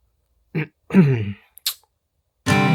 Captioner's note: cough